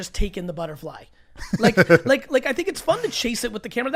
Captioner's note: laughs